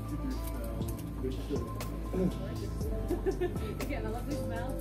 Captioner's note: laughing